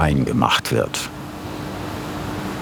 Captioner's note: soft whirring